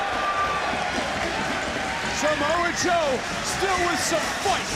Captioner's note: audience cheering